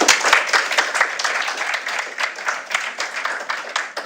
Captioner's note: applause